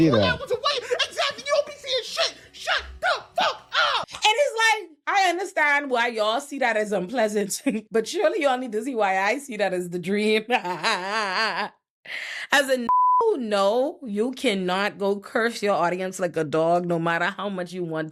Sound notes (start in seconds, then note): 10.5 laughs